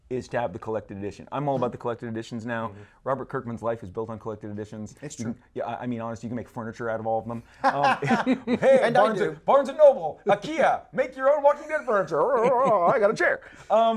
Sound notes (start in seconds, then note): 7.5 laughs